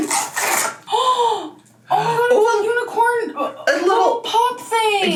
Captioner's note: gasps